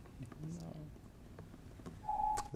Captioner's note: timer beeps